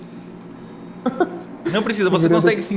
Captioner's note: laughs